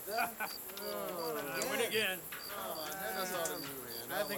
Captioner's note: men chattering